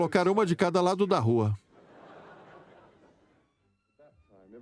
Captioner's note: audience laughs